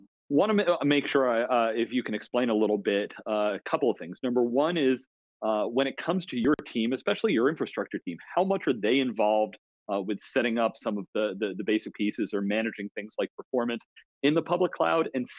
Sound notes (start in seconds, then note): none